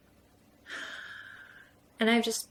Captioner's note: sighs